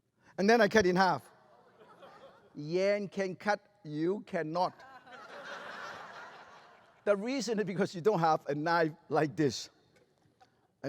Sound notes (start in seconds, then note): 1.4 laughter; 4.7 laughter